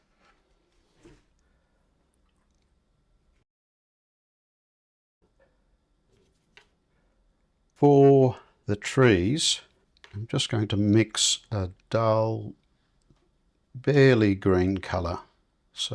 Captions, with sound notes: [silence] For the trees, I'm just going to mix a dull, barely green color.